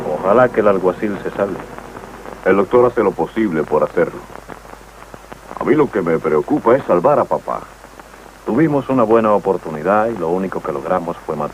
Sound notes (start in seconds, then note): none